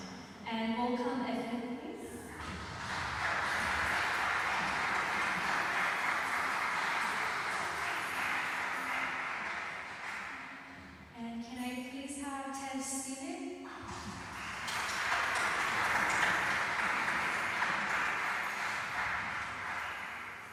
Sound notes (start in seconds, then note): 2.2 applause; 13.8 applause